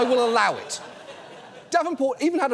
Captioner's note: audience laughing